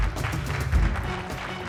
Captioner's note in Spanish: aplausos